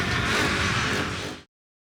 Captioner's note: motorcycle engine roaring